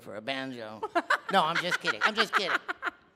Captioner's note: laughing